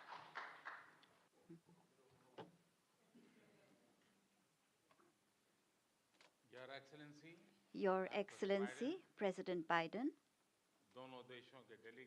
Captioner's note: applause